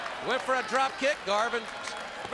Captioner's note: crowd cheering